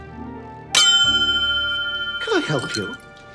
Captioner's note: bell dings loudly